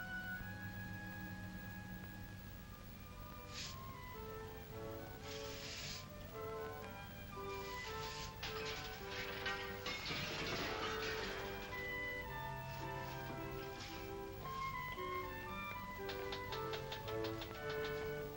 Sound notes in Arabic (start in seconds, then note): 3.4 أصوات كنس; 3.4 موسيقى هادئة مبهجة; 8.0 أصوات قعقعة; 8.3 موسيقى هادئة مبهجة; 12.2 موسيقى هادئة ومبهجة